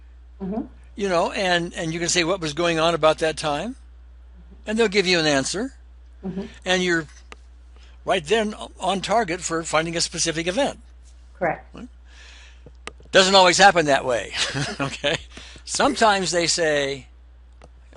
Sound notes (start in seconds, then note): 14.3 chuckles